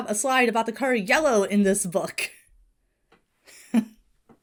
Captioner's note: Hana chuckles